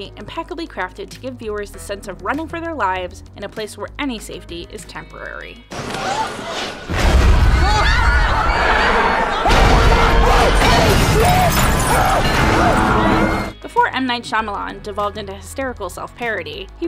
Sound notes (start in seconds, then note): 6.8 loud explosion; 7.7 people screaming; 11.2 giant object crashing screeching to a halt